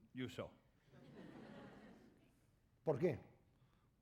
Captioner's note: laughter; speaking spanish